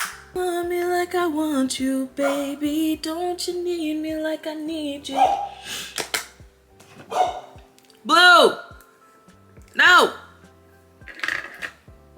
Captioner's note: barking